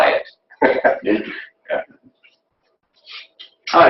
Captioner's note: laughing